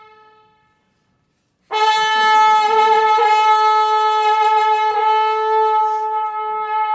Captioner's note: horn blowing